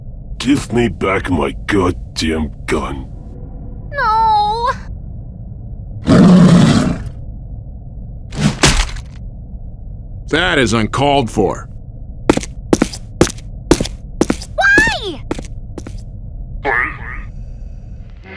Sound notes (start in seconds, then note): 6.0 growls; 12.3 footsteps